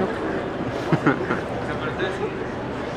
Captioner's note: laughs